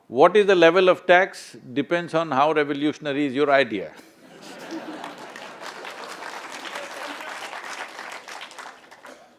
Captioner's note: applause